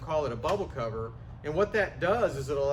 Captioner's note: cover snapping